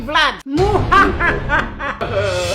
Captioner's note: ebil laughter.mp3